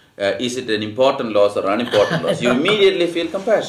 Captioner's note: laughs